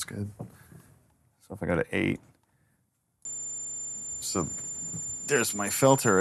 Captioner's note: high-pitched tone